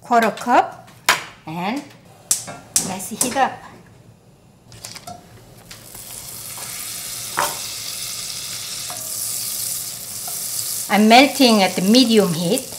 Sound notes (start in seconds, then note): 5.5 butter sizzles